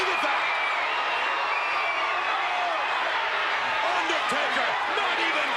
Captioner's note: crowd cheering